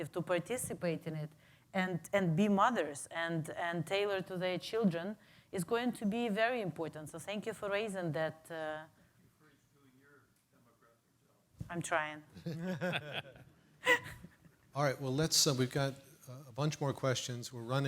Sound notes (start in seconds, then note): 12.5 panel laughs